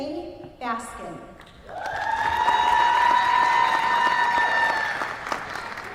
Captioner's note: applause